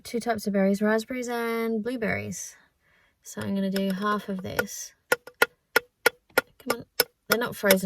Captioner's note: tappity tap tap; more tapping